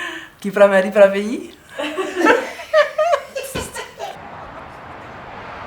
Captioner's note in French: rires